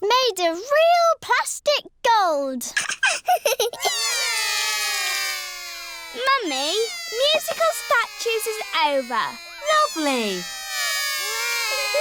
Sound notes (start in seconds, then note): 2.8 laughs; 4.0 all cry